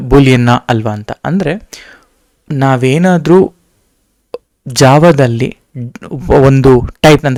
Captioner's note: speaking in foreign language